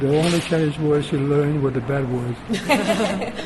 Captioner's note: laugh